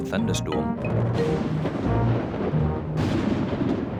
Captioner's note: thunder rumbles